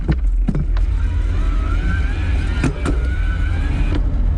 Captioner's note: motor roars